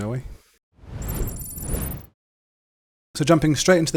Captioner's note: digital beeping